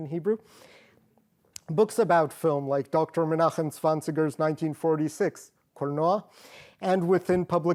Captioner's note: non english